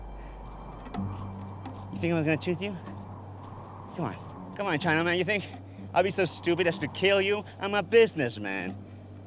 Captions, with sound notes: You think I was gonna shoot you? Come on. Come on, [SPANISH]. You think I'd be so stupid as to kill you? I'm a business man.